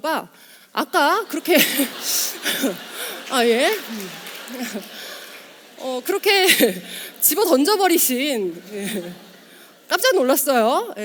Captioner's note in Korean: 웃음